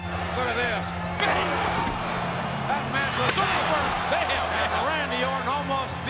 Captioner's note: applause